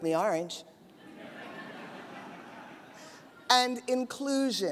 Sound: audience laughs

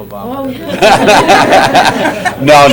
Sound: laughter

